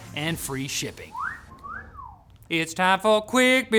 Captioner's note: whistles cat call